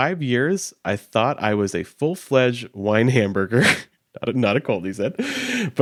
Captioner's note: chuckles